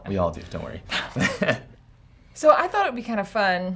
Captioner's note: chuckles